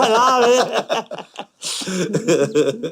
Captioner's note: haha